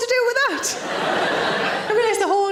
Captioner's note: audience laughing